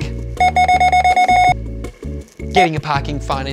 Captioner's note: scanner beeping repeatedly